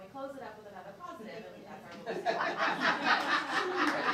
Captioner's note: laughing